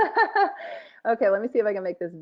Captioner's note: laughing